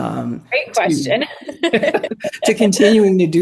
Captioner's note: laughs